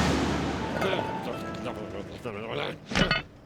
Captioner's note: grumbles